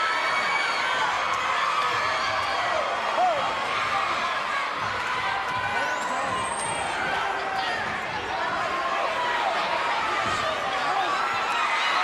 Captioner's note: crowd cheering